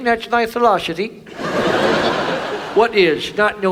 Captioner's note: audience laughs